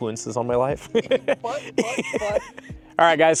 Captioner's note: laughter